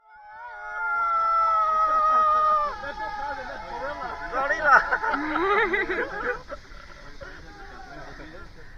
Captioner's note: Tarzan screaming and laughter